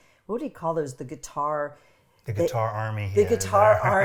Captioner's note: laughing